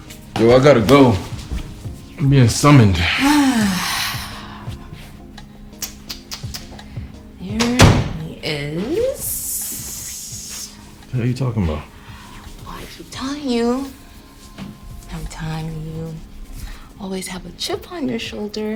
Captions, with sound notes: Yo, I gotta go. I'm being summoned. (Princess sighing) (Princess tutting) - Here he is. - The hell you talking about? - Boy, I keep telling you, I'm telling you, always have a chip on your shoulder.